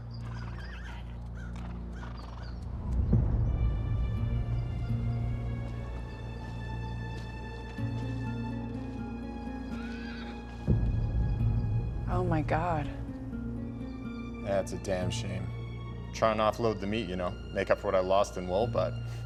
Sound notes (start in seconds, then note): 9.7 horse neighs